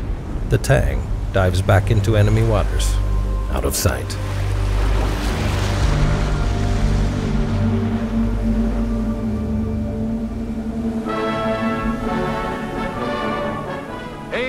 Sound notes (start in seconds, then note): 4.9 waves crashing